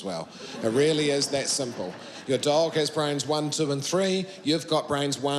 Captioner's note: laughter